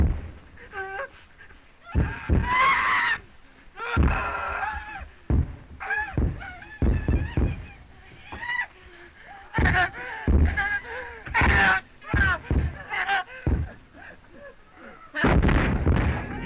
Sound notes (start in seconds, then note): 1.8 screaming; 9.2 screams